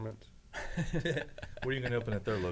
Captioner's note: laugh